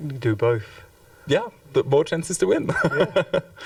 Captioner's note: chuckles